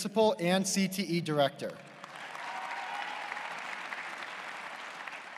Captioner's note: applause